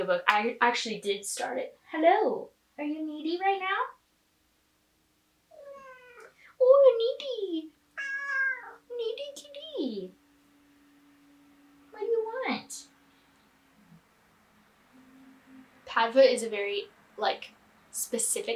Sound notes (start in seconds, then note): 7.9 cat meows